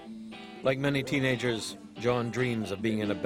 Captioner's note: voiceover